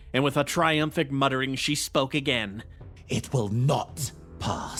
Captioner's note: none